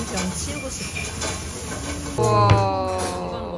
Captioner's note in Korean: 지글지글